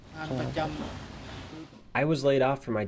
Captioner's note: through translator